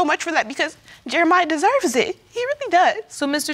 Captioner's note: sniffling